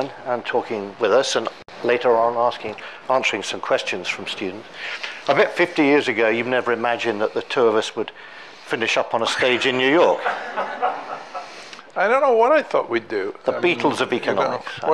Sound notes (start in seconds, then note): 9.2 all laughing